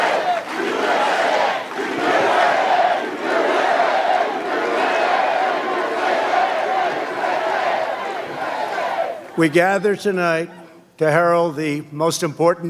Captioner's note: applause; chanting "u.s.a.!"